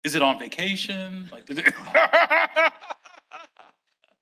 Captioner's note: laughing